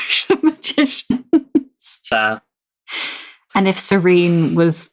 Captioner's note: laughing